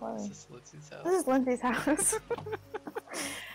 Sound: both laugh

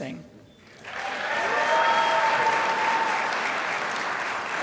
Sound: crowd applauds

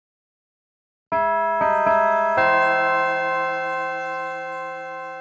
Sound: bells chime

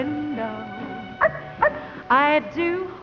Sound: dog barks

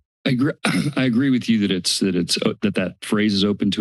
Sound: clears throat

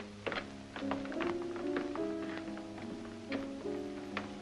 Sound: footsteps

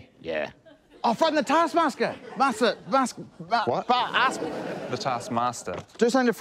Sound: stammers

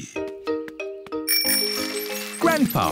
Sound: bell rings

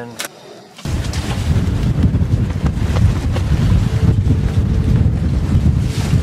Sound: blustery winds

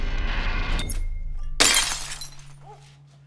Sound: glass drops, shatters

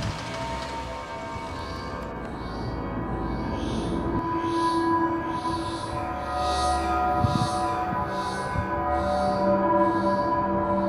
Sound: ghostly whispering

